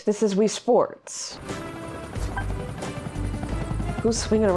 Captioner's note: helicopter whirring